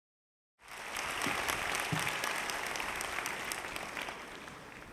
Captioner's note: audience applauding